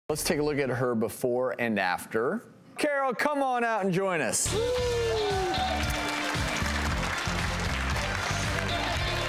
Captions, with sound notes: Let's take a look at her before and after. Carol, come on out and join us. (audience applause) (upbeat music)